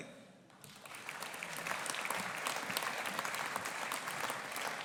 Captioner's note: audience applauding